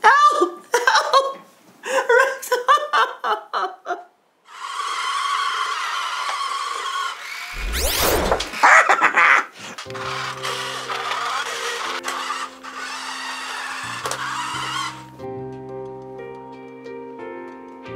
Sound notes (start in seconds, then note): 1.8 sobbing; 4.4 RC car motor whining; 7.5 missile whirring; 8.7 cackling